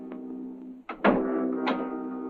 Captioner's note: ominous music; door closes